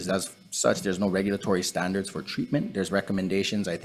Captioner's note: none